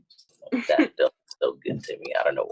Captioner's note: laughs